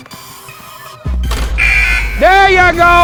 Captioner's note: buzzer blares